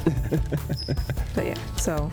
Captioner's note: laughs